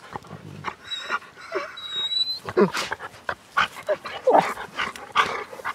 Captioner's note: dogs whining playfully